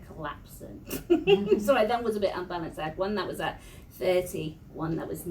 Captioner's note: laughs